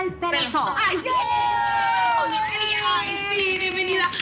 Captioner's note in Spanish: Gritos y exclamaciones